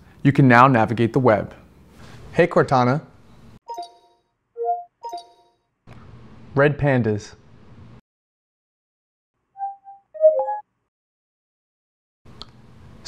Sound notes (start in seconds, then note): 4.1 Cortana alert sound; 9.0 Cortana search sound